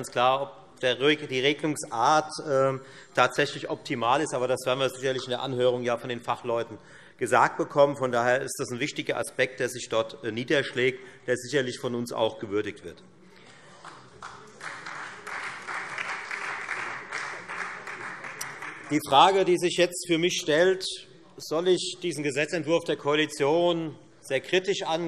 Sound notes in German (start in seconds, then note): 13.7 Beifall Freie Demokraten und vereinzelt DIE LINKE